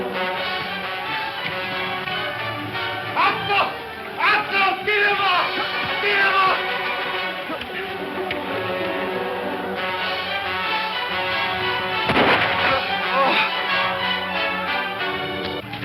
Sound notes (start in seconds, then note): 2.7 speaking in foreign language; 12.5 grunting